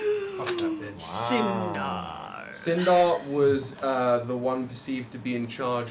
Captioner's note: gasps